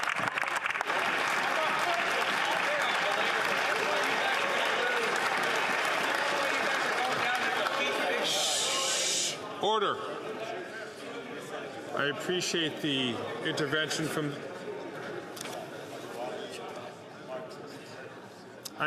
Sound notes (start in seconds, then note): 2.9 applause